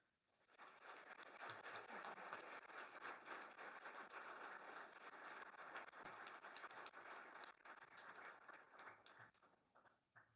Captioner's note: applause